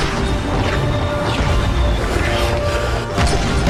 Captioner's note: guns thud